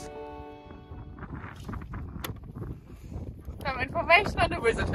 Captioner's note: wind blowing